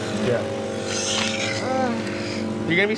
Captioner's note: groaning